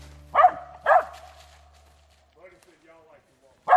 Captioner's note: barking